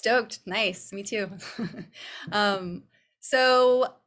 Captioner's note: chuckles